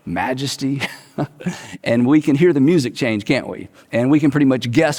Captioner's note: chuckles